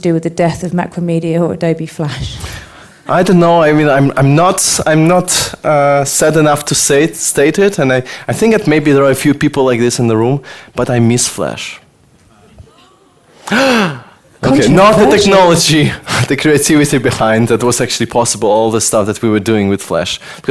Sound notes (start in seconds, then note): 12.3 gasps; 12.4 woman in audience gasps